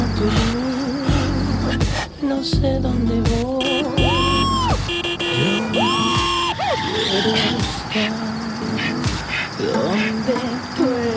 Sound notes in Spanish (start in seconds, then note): 3.6 Claxon; 3.6 Exclamaciones